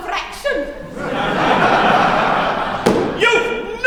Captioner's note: laughter